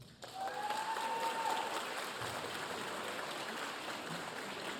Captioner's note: audience applauding